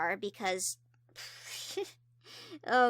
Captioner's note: giggles